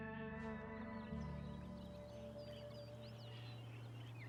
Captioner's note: birds chirping